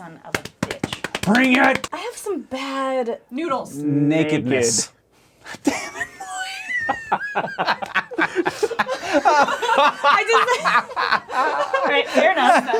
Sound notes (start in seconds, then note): 6.6 starts laughing; 8.2 all laughing; 11.1 laughs